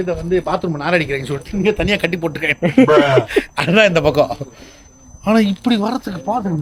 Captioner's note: laughter